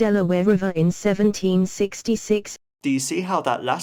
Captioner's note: screenreader voice reads the text